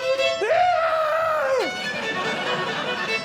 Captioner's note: yells; upbeat Violin